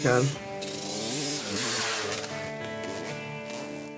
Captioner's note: motorcycle roars